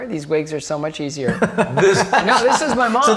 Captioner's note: all laughing